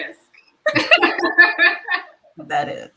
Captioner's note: all laughing